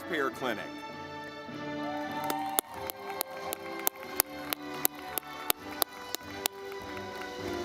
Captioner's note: audience clapping